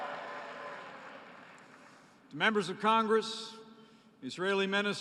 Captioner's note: applause